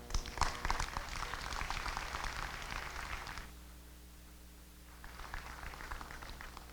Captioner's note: applause